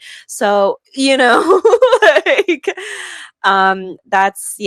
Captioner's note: laughs